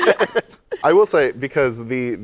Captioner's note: laughter